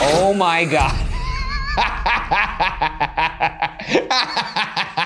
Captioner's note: laughing